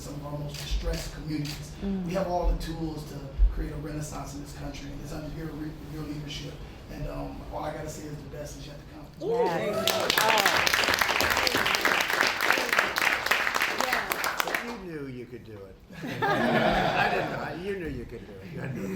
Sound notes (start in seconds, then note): 9.4 applause; 15.9 laughter